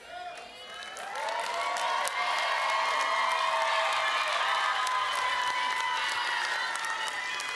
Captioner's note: applause